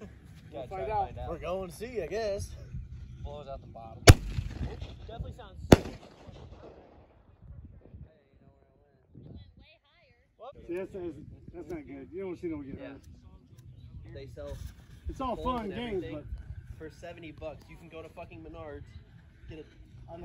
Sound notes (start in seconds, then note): 10.4 chatter; 14.1 chatter